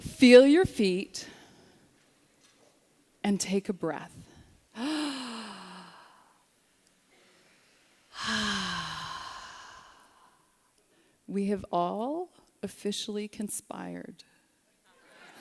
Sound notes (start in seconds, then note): 5.3 breathing